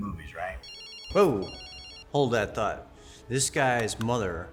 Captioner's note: phone ringing